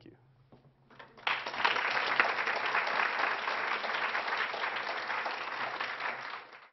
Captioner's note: Applause; 掌聲